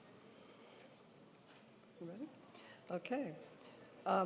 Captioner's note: none